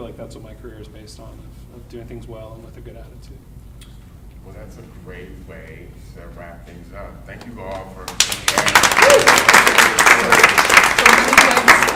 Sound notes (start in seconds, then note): 7.4 audience clapping drowns out speakers